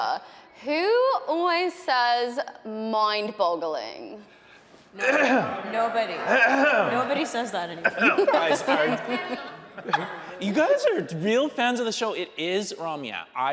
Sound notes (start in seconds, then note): 5.0 clears throat; 5.8 audience laughing; 8.9 hosts laughing